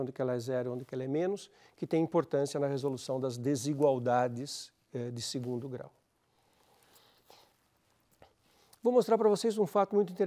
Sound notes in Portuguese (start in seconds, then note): 6.2 pausa sonora